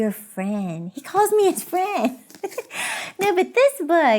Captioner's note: laughing